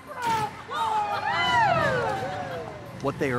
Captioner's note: cheering and screaming